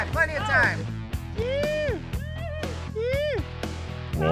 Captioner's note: cheering